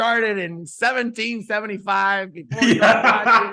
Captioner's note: laughing